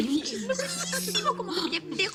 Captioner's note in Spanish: Risas